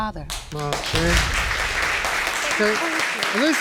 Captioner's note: audience applauds